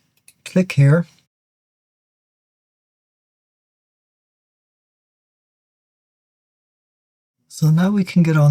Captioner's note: 7 seconds silence